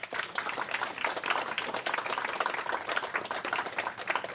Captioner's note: applause